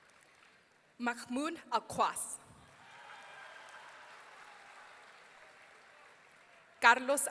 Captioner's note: audience cheering